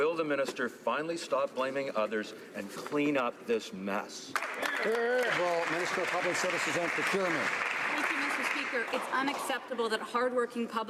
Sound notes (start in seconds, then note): 7.8 some Applause